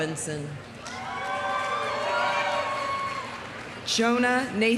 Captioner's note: audience cheering; audience applauding